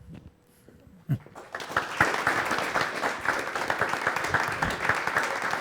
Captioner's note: audience applause